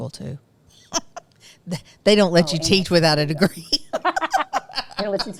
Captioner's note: laughs